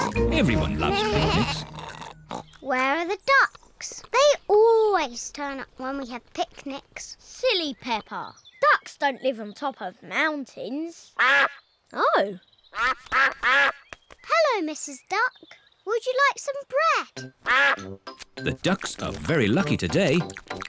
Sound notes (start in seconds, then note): 12.8 all quack; 17.4 quacks